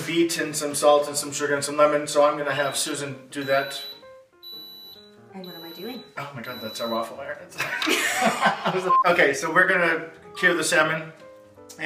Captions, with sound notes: beet and some salt and some surgar and some lemons so I've going to have Susan do that.... (beeping in background) Oh my God that's our waffle iron (laughing) ok so were gonna cure the salmon